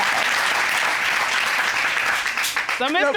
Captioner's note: applause